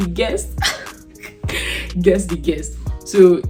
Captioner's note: laughs